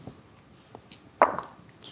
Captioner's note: dice rolling